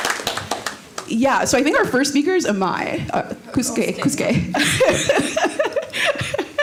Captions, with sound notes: (applause) Yeah, so I think our first speaker is Amai. Kuske, Kuske. (laughs)